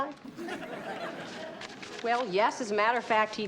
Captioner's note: audience laughs